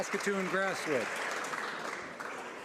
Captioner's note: applause